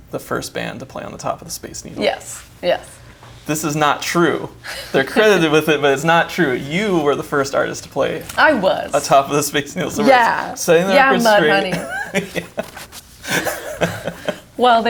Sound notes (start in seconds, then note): 4.6 laughs; 13.2 both laugh